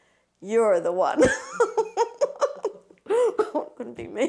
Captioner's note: laughing